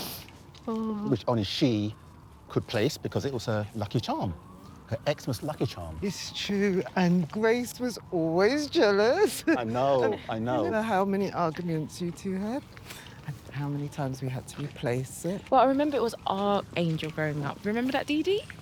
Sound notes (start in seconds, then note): 5.3 sirens blaring